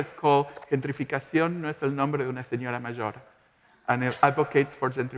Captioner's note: speaking in Spanish